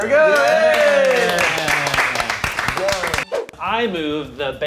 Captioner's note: movers clapping